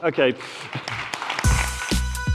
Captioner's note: applause